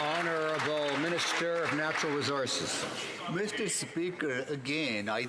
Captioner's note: some Applause